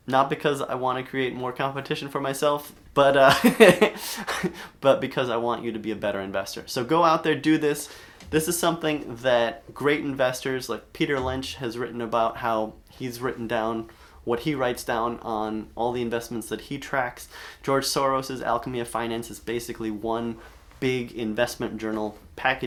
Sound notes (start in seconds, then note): 3.3 chuckles